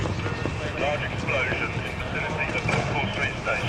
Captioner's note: man over radio